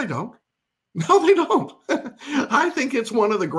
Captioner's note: laughs